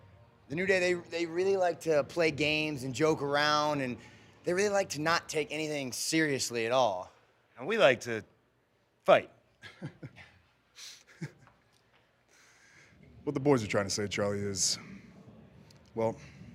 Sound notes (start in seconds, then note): 9.6 laugh